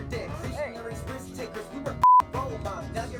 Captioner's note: beep